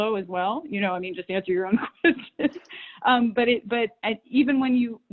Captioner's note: laughs